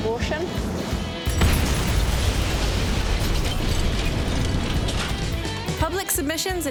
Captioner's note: metal thudding; metal clanging